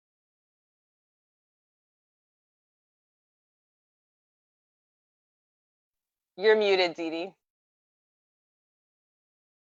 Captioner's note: no sound